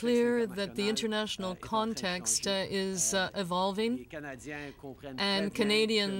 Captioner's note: speaking french